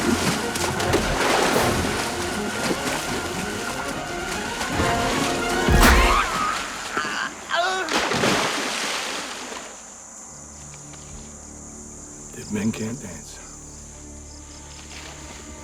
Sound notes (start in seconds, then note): 5.6 groans; 7.6 water Splashes